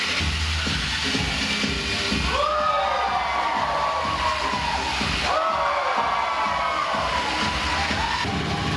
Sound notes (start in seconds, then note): 2.2 cheers and screams